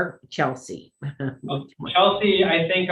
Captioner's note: laughs